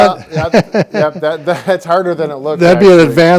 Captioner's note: laughing